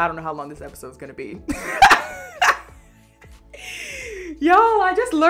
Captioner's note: laughs